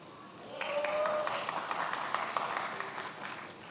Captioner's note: many applauding